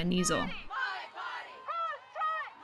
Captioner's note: crowd